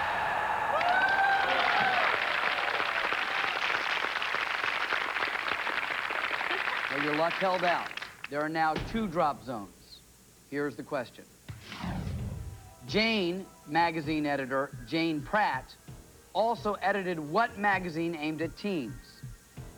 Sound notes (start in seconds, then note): 0.9 cheers and applause